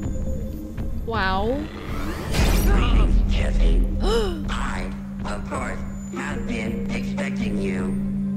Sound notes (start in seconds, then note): 1.5 electronic loading; 4.1 Sabrina gasps